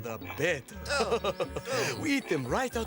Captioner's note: Wingo laughing; Armstrong groaning